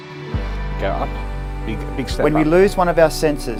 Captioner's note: talking softly